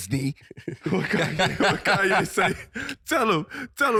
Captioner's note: laughing